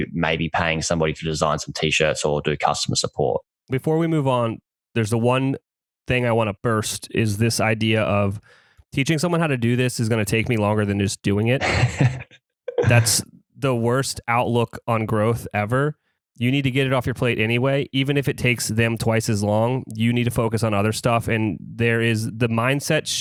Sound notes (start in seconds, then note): 11.6 laughs